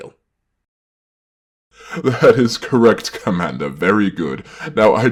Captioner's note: laughing